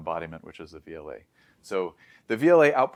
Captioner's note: inhales